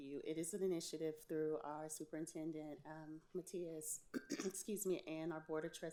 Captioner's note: clears throat